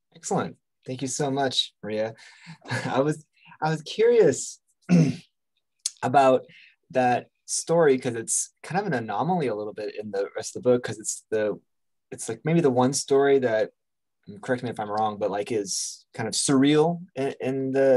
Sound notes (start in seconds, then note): 2.5 chuckles; 4.8 clears throat